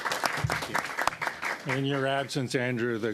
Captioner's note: applause